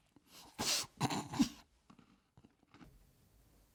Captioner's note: cough